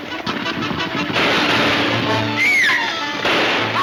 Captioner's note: gunshots banging; Mary screaming; gunshots banging